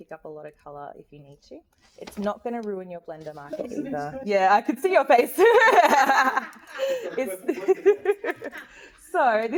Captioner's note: laughs